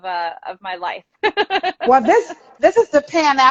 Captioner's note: laughing